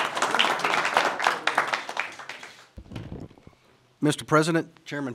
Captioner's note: applause